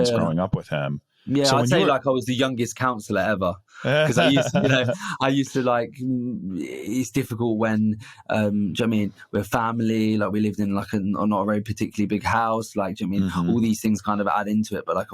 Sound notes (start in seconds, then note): 3.8 laughing